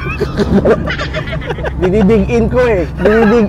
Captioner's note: both laughing